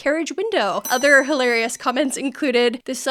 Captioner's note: bell ringing